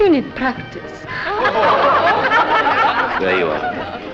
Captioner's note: laughter